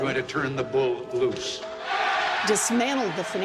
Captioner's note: cheering and applause